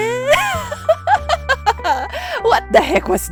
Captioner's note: laugh